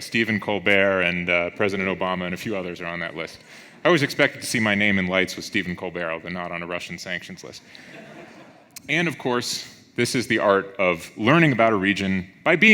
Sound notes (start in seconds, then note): 7.8 audience laughs